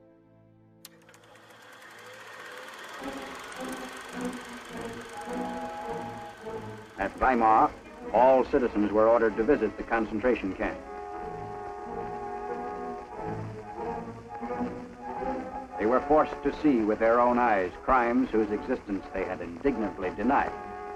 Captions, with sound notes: [Radio Announcer] At Weimar, all citizens were ordered to visit the concentration camp. They were forced to see with their own eyes crimes whose existence they had indignantly denied.